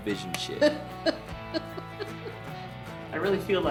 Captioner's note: laughs